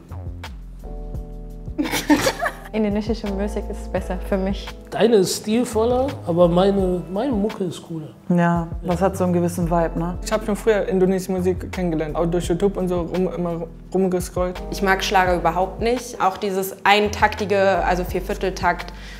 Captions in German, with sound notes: (Lockere Musik) (Lachen) Indonesische Musik ist besser für mich. Deine ist stilvoller aber meine Mucke ist cooler. Ja, das hat 'nen gewissen Vibe, ne? Ich hab früher indonesische Musik kennengelernt. Durch YouTube, rumgescrollt. Ich mag Schlager überhaupt nicht. Auch dieses Eintaktige, also Viervierteltakt ...